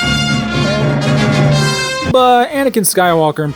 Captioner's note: Chewbacca roars